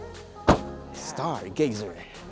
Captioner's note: door thuds